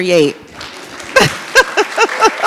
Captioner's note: laughs and audience applauds